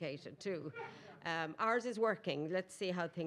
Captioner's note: attendee laughing